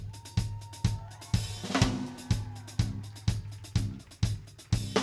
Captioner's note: slow drumming music; audience cheers